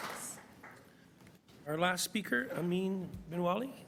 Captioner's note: applause